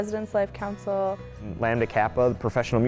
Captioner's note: voiceover